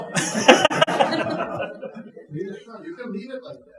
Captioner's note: audience chuckling